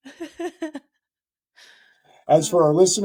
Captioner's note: laughing